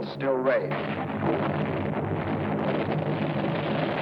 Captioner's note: cannons firing